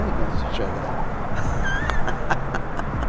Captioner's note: laughter